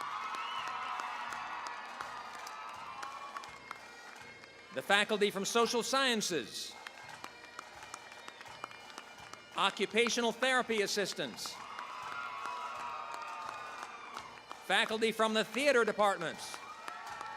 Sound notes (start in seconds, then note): 0.1 cheering, applause; 7.4 applause; 11.8 cheering, applause